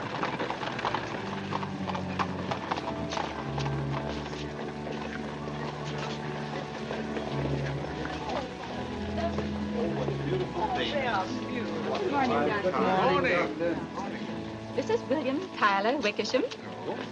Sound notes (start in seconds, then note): 4.8 indistinct chatter